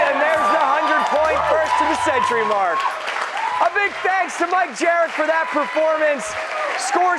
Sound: cheers and applause

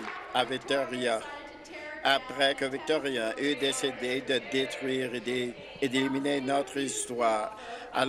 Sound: some Applause

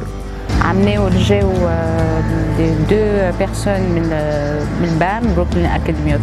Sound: parle en arabe

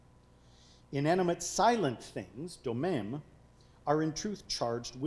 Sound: speaking foreign language

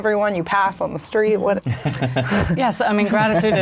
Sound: laughs

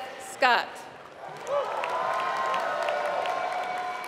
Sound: applause

